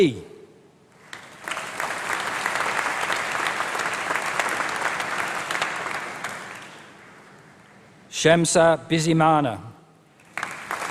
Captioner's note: applause; applause